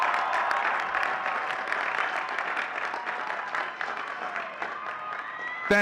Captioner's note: audience cheering and clapping